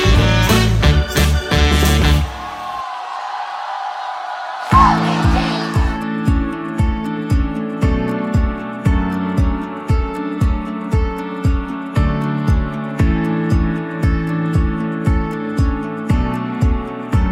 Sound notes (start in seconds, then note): 2.0 crowd cheering